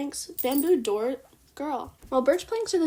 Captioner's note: Scarlett collar jingle